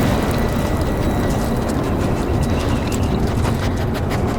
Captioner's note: dog sniffing